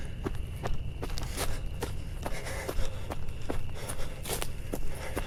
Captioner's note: heavy breathing